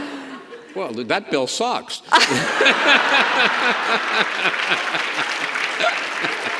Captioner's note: Governor and audience laugh